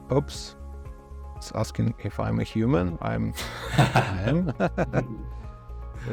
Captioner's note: laughs